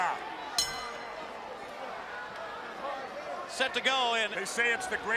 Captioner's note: bell ringing